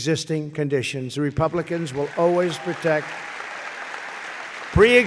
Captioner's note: applause